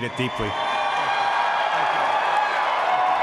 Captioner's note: applause